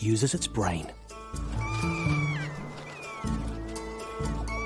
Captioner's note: kea screeching